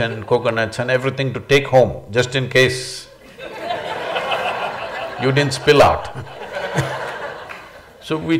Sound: laughter

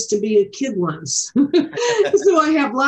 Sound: all laughing

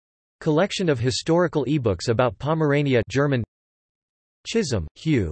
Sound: German

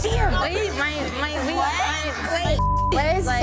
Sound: dark haired bartender chattering; beep

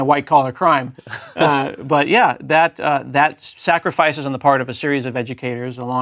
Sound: laugh

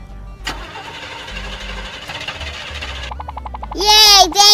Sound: car ignition starts

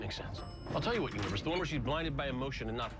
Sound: elevator bell dings

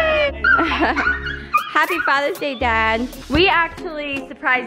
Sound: chuckles

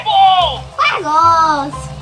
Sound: toy talking

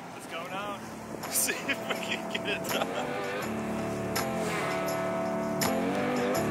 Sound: laughing

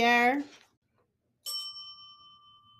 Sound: bell dings

